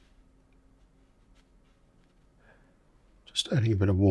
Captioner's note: silence